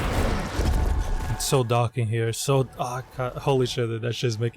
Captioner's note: faint portuguese swearing